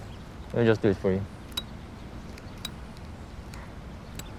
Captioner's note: lighter flicking